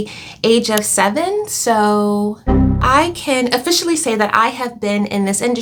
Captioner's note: error sound